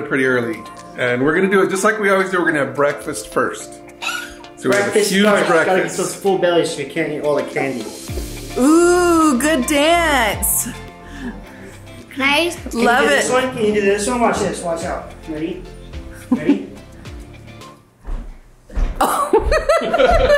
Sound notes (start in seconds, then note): 10.3 upbeat music; 16.2 mom chuckles; 19.0 laughs